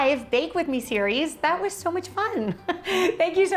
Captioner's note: laughs